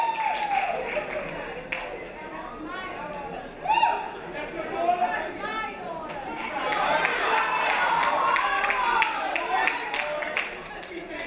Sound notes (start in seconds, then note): 6.2 crowd cheering